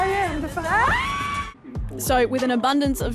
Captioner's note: both scream